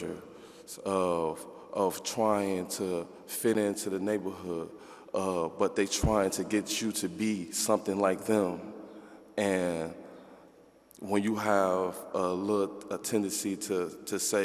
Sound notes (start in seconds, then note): none